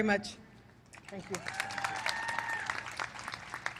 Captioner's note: applause